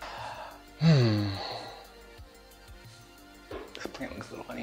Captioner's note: sighs